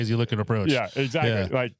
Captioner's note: laughing